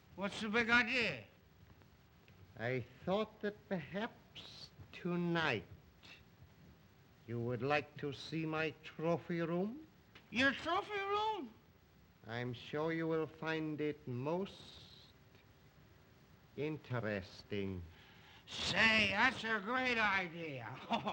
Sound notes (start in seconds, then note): 11.3 slurring words